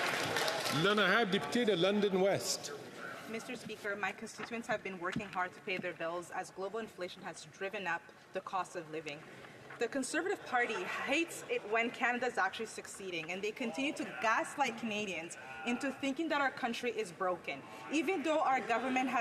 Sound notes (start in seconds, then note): 1.9 some Applause